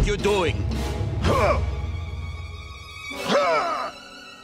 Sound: grunting

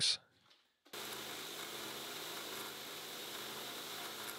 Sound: lathe whirs

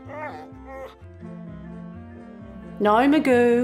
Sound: dog barks and whimpers

